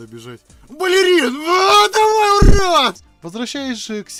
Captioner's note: russian cursed screams